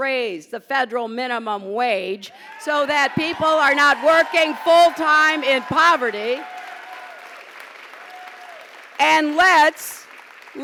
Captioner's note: pause, applause